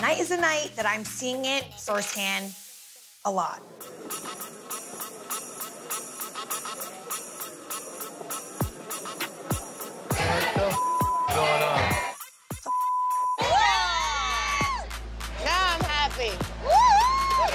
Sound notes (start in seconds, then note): 3.5 upbeat music; 12.6 beep; 13.3 all cheer